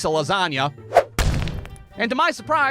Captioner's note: whoosh-thud!